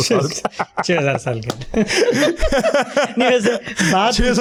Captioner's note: chuckles